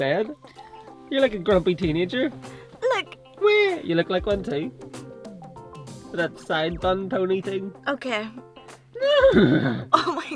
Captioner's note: cry noise; neighs